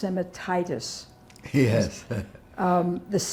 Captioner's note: laughing